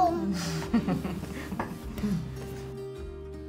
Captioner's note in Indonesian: Tertawa